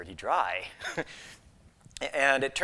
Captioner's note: laughs